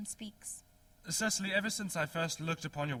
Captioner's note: speaking very rapidly